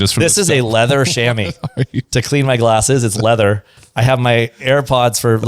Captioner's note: laughs